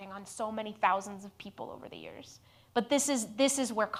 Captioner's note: none